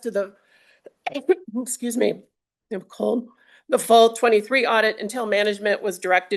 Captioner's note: clears throat